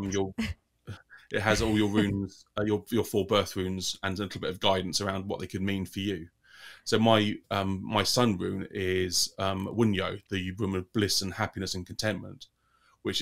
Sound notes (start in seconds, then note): 9.8 speaking in foreign language